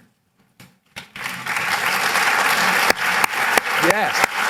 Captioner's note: applause